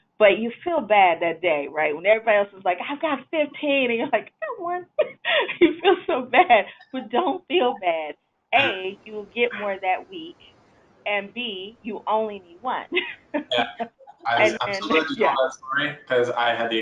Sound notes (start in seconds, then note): 4.8 laughs; 12.7 laughs